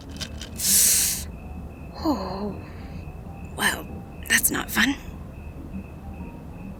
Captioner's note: sound of ice packs placed gently; hisses air in through teeth